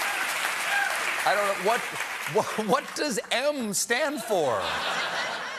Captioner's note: cheers and applause